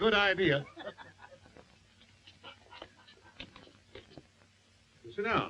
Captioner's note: all laughing